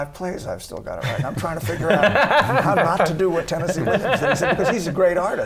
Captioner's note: laughter